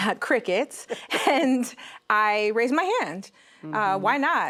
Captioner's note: chuckles